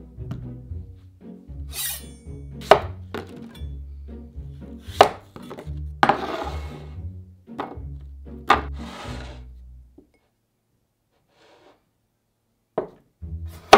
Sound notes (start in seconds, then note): 2.6 knife chopping; 6.0 bowl sliding